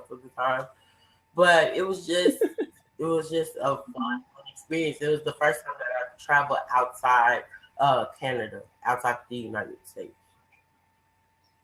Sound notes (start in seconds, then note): 1.4 laughs